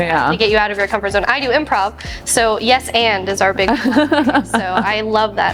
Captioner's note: audio blurs